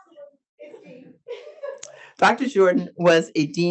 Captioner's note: speaks faintly